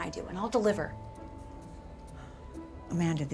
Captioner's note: sighs